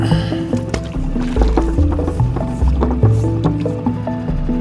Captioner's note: water splashes